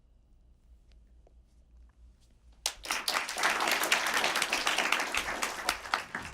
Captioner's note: applause